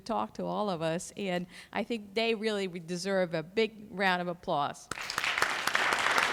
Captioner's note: clapping